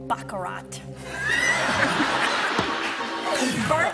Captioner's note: laughs